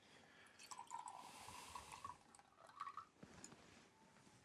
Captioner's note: liquid sloshing